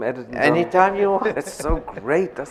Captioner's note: chuckles